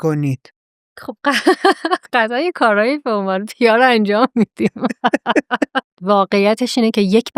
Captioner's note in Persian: خنده